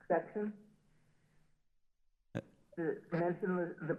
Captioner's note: silence